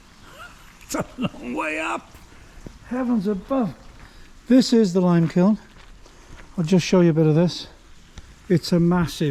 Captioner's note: laughs